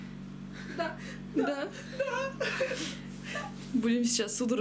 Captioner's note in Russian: Смеются